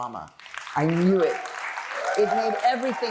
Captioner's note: applause